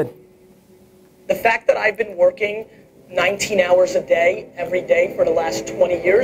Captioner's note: voiceover